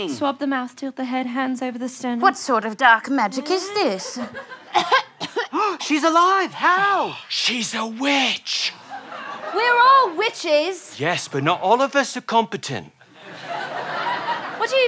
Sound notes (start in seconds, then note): 4.6 coughs